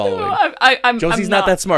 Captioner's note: laughing